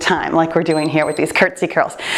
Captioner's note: timer beeps